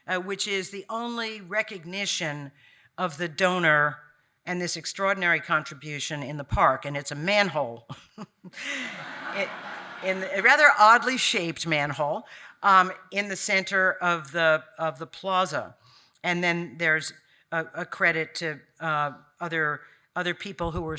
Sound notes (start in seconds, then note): 8.6 audience laughing